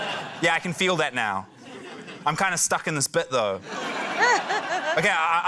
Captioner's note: laughter; laughter